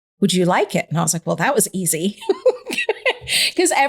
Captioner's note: laughing